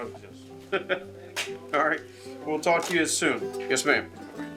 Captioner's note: laughs